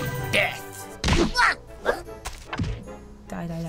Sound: thuds

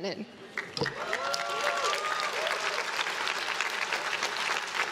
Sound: crowd claps and cheers

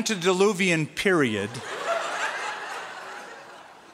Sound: laughter

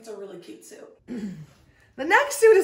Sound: woman clears throat

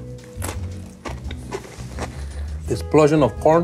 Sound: bright music; chip crunches

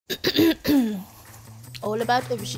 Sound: clears throat

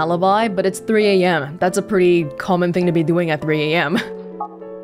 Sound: scoffs

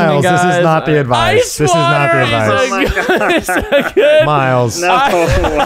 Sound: laughing

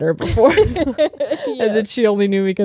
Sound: both laughing

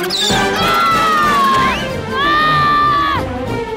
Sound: screaming

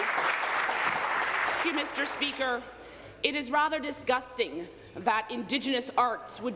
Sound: applause

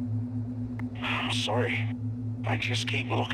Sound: sigh

